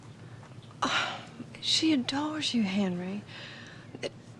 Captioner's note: sighs